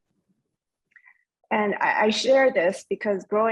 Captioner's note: speaking in foreign language